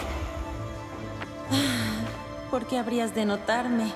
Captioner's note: sigh